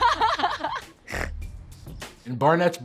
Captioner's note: laughs hysterically; snorts